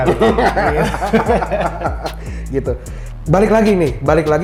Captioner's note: laugh